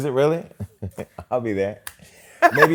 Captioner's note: laughs